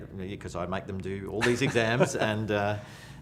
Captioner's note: laughs